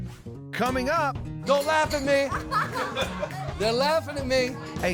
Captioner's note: laughing